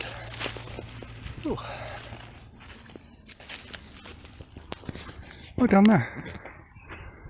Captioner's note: leaves rustling under foot